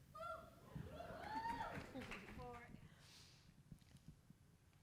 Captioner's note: audience cheering